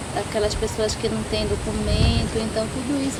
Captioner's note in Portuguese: barulho de vento